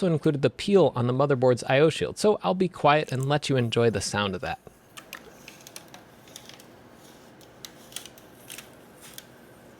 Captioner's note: peeling sound intensifies